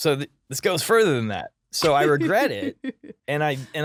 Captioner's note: laughing